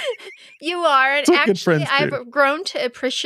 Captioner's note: laughing